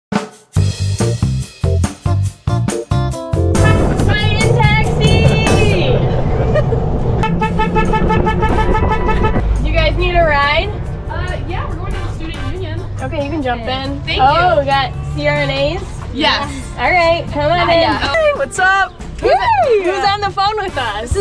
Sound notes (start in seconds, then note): 3.7 horn honking; 5.9 laughing; 7.2 horn honking, cheering